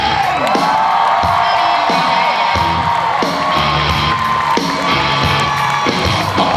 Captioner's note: audience cheers